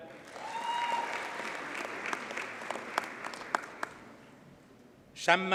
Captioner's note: audience cheers and applauds